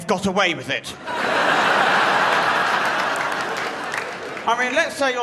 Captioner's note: crowd laughs